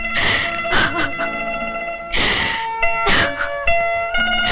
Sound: crying

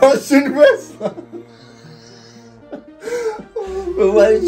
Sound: both laughing

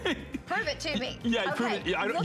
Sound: laughter

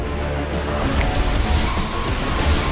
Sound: snaps

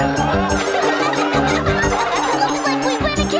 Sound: triplets and Townspeople laugh

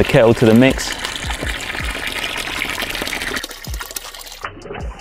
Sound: water gargling

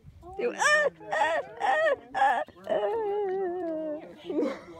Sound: noises of me freaking out

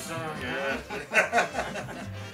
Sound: laughter

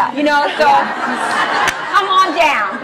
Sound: laughs

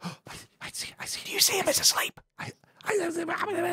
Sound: whispers

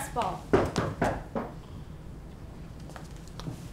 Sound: knocking

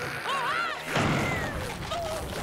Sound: grunting; shouting

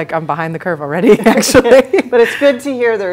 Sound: both laughing

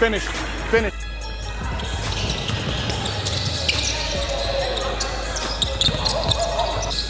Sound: slow music continues; overlapping chattering

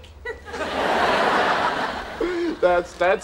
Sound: audience laughing

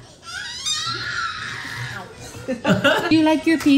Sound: shouts

